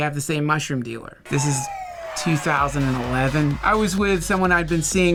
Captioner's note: descending slide whistle